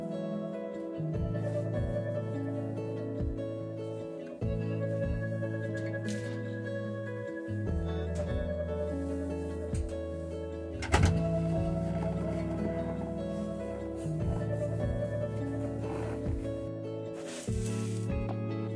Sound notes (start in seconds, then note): 10.8 door closes; 12.5 snow crunching